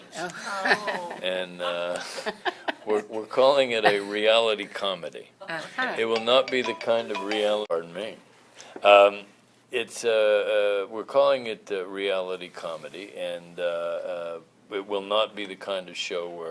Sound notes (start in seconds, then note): 1.6 laughter; 6.1 phone ringtone